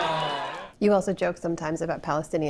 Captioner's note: laughter